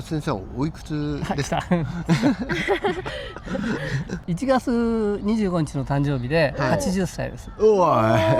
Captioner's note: laughter